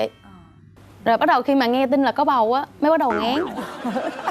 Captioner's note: laughing